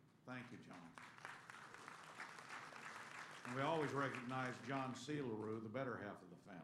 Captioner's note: applause